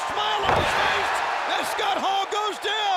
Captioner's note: audience cheers